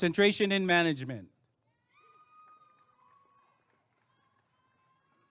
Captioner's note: applause and cheering